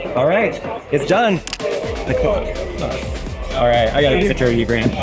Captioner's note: camera clicks